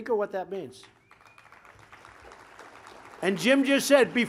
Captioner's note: applause